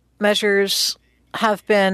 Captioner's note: speaking French